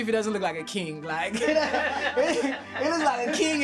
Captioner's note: laughter